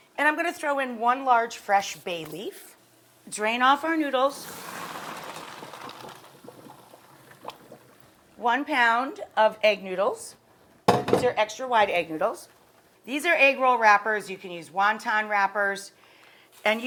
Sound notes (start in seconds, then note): 4.9 noodles rattle in pot; 10.9 pan clanks